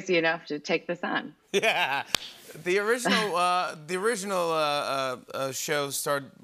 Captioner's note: laughs